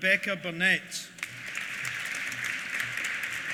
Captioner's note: applause